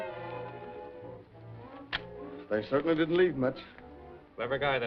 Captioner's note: suspenseful music; slams papers on table